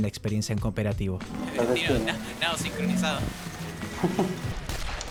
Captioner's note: laughs